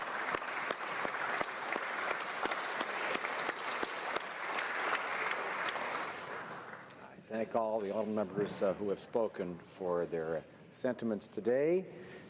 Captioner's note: applause